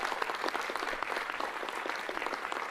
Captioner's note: applause; cheers